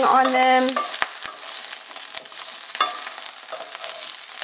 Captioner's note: pan sizzles